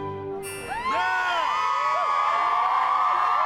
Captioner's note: cheering